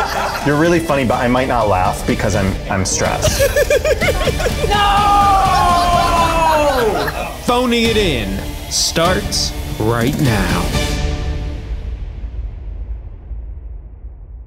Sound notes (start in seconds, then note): 0.0 everybody laughing; 3.2 giggles; 5.4 dramatic music